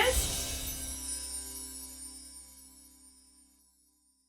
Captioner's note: chimes tinkling